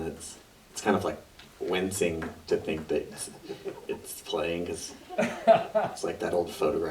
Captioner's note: audience member laughs